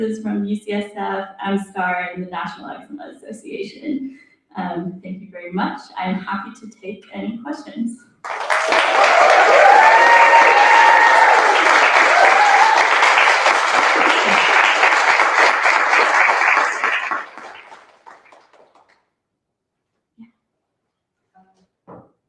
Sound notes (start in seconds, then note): 7.9 applause; 8.4 cheering